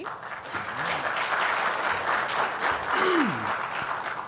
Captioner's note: applause